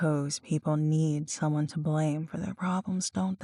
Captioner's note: none